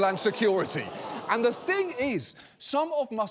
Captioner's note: audience groaning